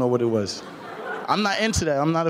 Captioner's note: laughing